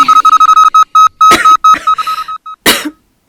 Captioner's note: cough